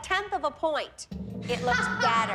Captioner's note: laughing